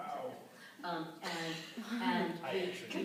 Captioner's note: laughing